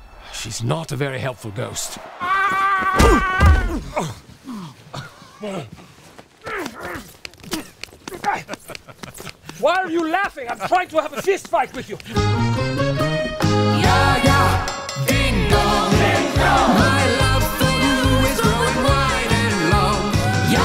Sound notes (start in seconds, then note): 1.8 screaming; 2.8 thumping; 3.4 grunting; 6.4 soft punching; 8.2 laughter